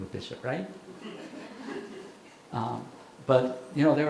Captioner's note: audience chuckling